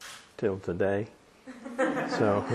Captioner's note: laughter